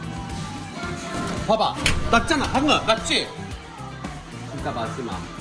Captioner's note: thud